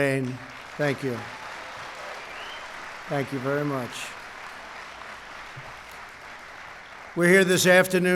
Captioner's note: applause